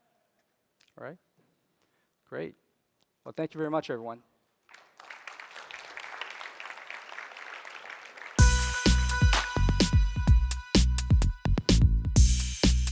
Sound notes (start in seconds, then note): 4.6 applause